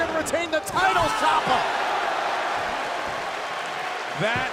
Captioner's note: crowd cheering